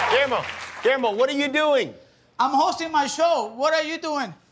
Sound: cheers and applause

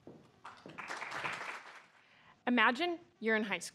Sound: applause

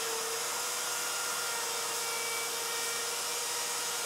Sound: machine whirring

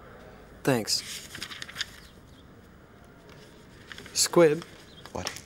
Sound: paper rustles

